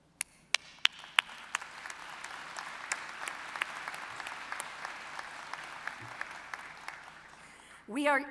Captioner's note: applause